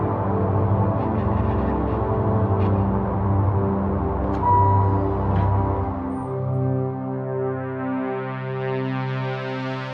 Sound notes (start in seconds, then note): 0.0 brooding synth music continues; 4.4 elevator chimes